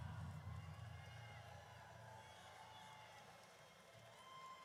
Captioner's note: audience cheers